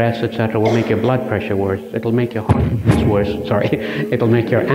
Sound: mic feedback

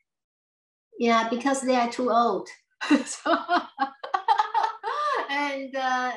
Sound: laughs

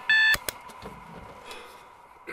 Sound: alarm clicks off

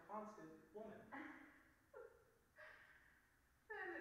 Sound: Popova chuckling

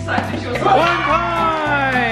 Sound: group cheers

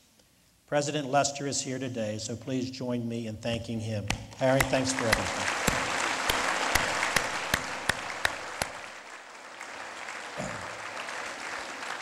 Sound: lead Applause

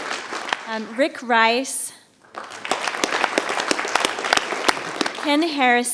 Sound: audience applauding; audience applauding

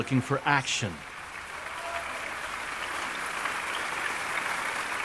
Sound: applauding

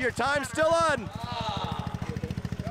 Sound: crowd exclaims

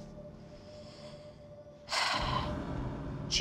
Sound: sighs

